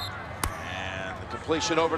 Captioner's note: whistle blows